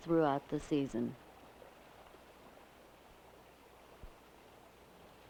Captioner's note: water bubbling